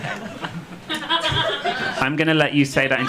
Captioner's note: audience laughing